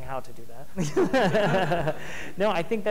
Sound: laughing

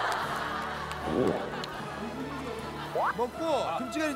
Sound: gulp

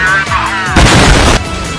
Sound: boooom!!

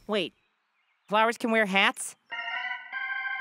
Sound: none

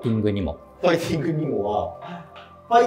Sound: laughing

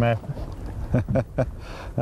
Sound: laughter

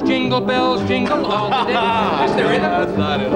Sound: audience laughing

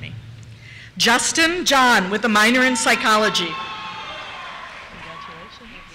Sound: cheers

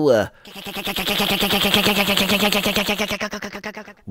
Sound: funny motor sound goes

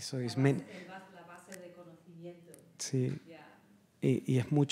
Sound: speaks in Spanish; speaking spanish

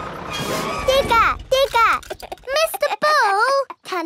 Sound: chuckles

